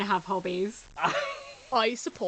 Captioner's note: laughing